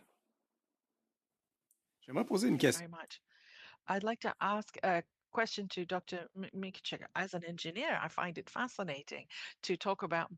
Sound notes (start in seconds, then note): 6.8 speaking in French